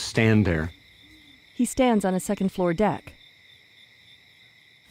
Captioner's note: crickets chirping